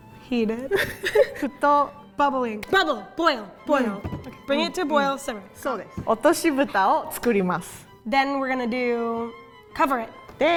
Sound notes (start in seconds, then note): 0.6 giggling; 1.6 speaking in Japanese; 6.0 speaking in Japanese